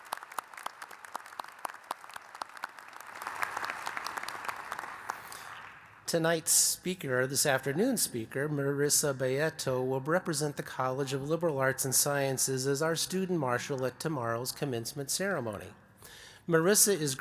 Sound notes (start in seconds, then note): 5.1 applause